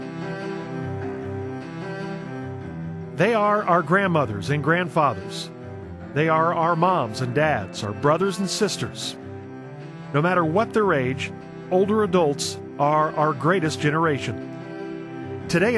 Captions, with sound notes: (pleasant orchestral music) - [Voiceover] They are our grandmothers and grandfathers. They are our moms and dads, our brothers and sisters. No matter what their age, older adults are our greatest generation.